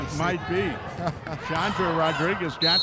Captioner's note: laughing